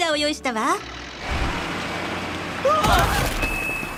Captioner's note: truck engine rumbling